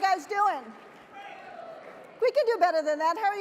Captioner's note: people shouting